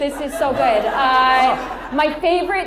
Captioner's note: audience laughs